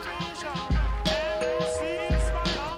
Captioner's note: door bell